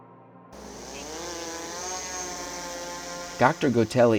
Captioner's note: drone buzzing